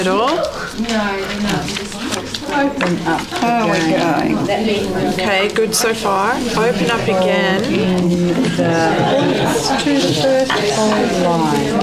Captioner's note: audience chatter